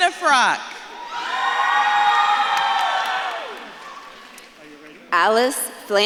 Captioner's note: audience claps and cheers